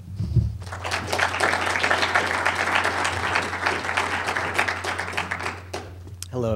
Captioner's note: applause